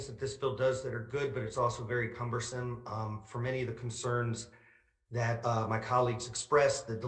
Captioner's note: none